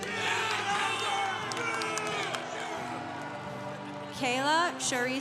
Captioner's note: congregation cheering